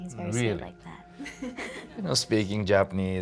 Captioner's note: chuckling